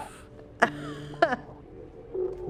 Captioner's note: Ruth laughs